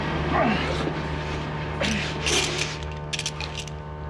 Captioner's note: groaning